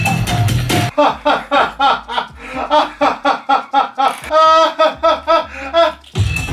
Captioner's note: hysterical laughter; laughing